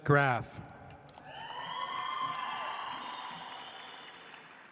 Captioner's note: audience applauds